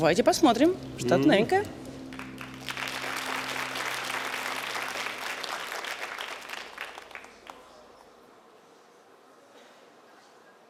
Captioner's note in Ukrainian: оплески